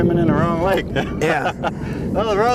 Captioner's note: laughter